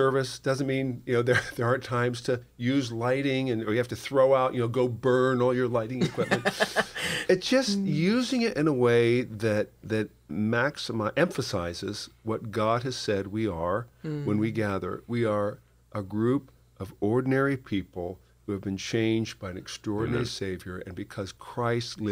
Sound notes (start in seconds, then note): 6.0 laughter